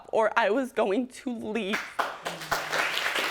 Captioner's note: audience applauding